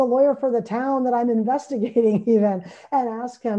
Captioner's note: laughs